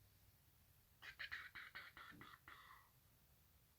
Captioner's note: choo noises